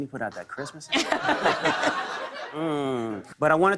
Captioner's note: laughter